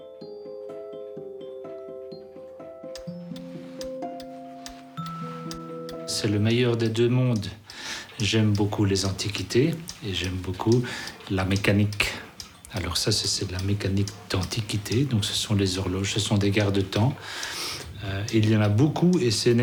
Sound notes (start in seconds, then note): 3.5 clock ticking; 6.1 speaking in foreign language